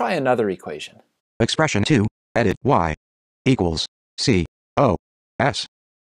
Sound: computer Voice

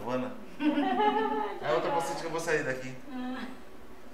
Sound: laughs

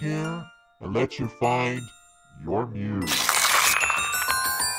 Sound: paper ripping; haunting music

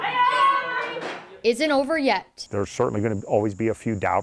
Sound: TAEKWONDO sound

